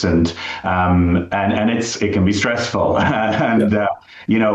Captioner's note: laughs